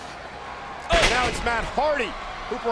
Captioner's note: body thuds